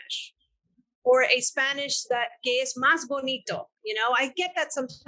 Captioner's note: speaking in foreign language